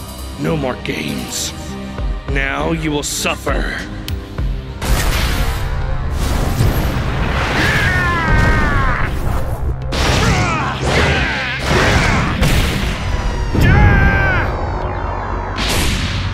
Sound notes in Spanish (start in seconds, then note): 7.5 Grita dolorosamente